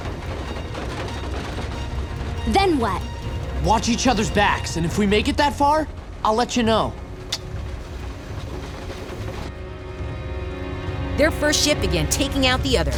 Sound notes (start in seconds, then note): 6.9 kissing